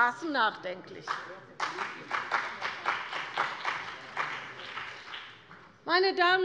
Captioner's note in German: Beifall BÜNDNIS 90/DIE GRÜNEN